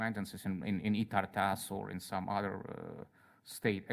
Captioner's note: speaks in Russian